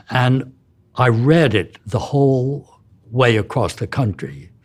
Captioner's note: none